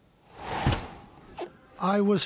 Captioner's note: air whooshing